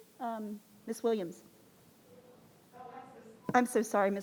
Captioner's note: speaking faintly